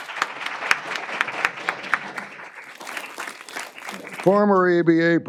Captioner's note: applause